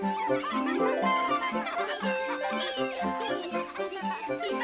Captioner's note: laughs